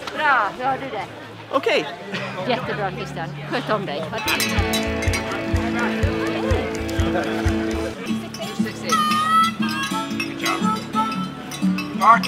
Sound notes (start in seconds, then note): 0.0 speaking foreign language; 9.3 bluesy music